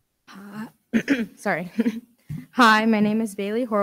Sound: clears throat

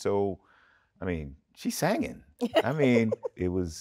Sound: Taraji chuckles

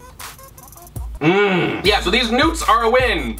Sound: grunts

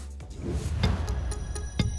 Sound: whoosh

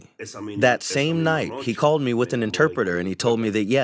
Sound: through translator

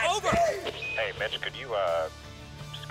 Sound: radio beeping

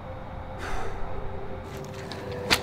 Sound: sighing; light music

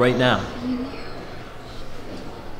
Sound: emma sighs

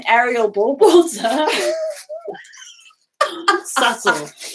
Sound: both laughing

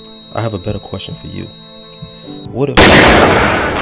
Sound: gunshot

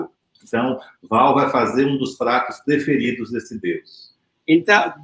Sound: speaks portuguese

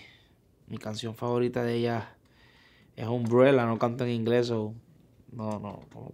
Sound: speaking in foreign language

